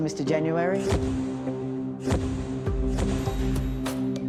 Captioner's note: camera flashes